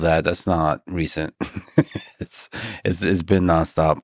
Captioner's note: laughs